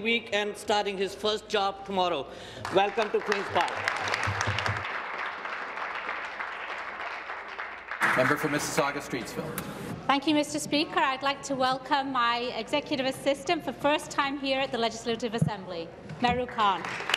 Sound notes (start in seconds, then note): 7.0 applause